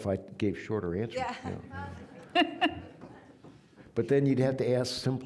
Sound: audience laughing

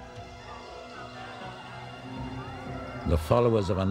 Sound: sirens wailing

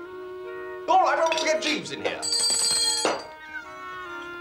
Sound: rings bell; miaowing

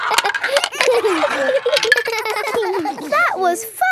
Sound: all giggling

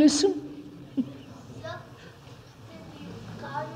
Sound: laughs

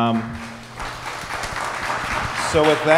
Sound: audience applauds

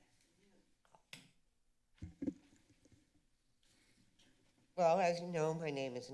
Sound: walking stick clicks

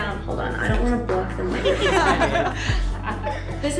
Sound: laughter

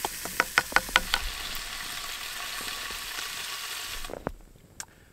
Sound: sausages clanging; sausages sizzling

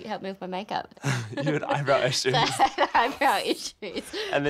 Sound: laughs

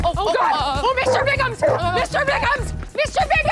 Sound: dog barks

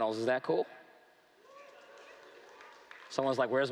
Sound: cheering

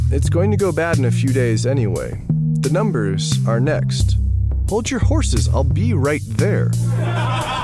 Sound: laughter

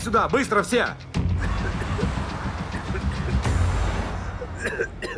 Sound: coughs

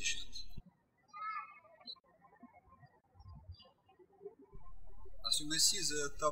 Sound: birds chirping

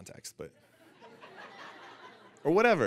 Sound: audience laughing

